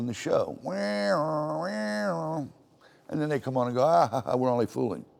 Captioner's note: makes alarm noises